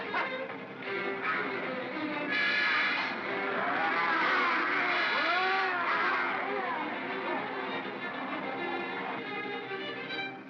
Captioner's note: Barnaby laughs & growls; suspenseful music; bogeymen growling; suspenseful music